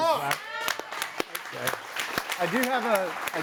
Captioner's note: audience applauding